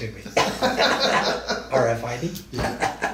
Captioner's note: both men laugh